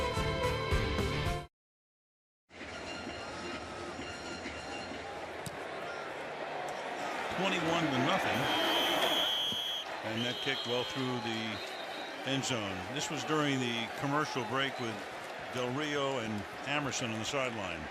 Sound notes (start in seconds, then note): 8.3 whistle